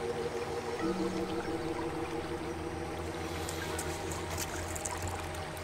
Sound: pensive music continues; river babbling; water splashing

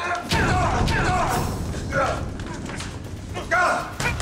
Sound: screaming

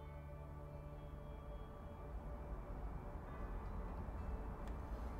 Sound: street traffic

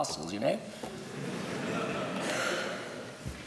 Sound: laughter

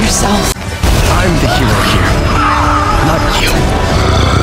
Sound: yells in agony

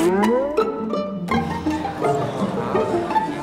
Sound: chattering

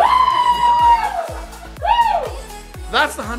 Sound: people shouting

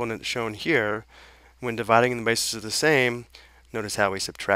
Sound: slurred

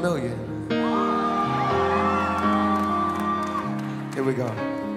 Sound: audience cheering

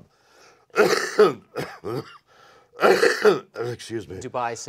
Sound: coughs

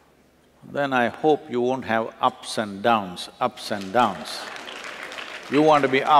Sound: applause

